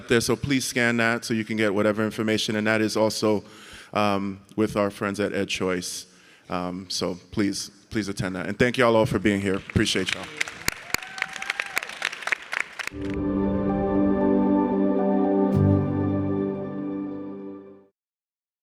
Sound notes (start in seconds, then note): 9.2 audience and panelists clapping; 13.0 light music